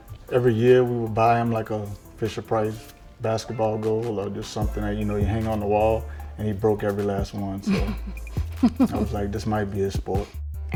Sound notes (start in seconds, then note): 7.6 laughing